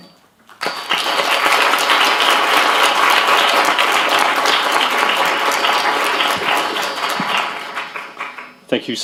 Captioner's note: applause